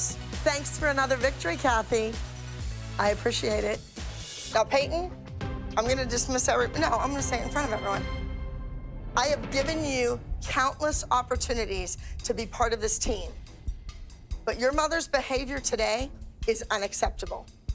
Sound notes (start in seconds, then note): none